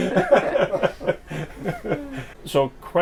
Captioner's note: laughs